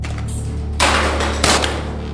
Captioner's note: phone crashes